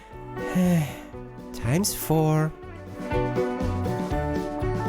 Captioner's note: sigh